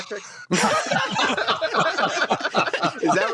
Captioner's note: laughter